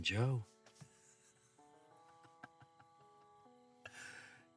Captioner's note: Joe laughing